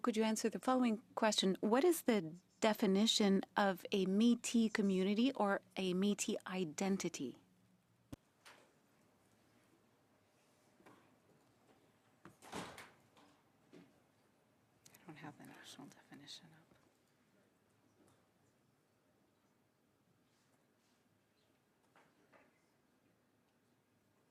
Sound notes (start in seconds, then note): 7.6 speaking French